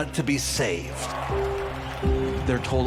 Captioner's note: attendee clapping